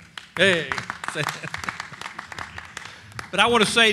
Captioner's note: applause